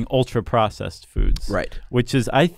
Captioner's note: voiceover